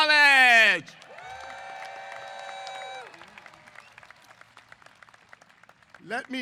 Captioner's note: applause & Cheers